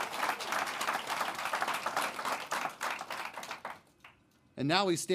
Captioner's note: applause